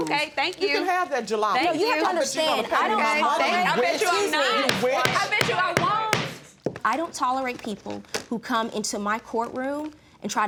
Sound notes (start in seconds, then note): 4.6 bangs gavel